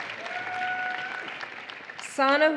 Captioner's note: applause